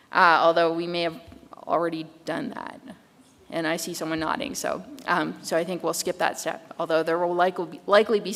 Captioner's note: none